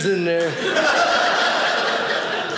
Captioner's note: audience laughing